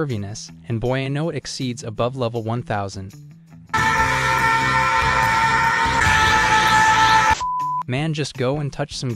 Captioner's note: beep